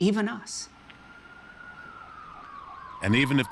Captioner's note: siren blaring in distance